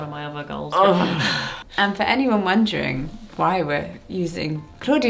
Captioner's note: grunts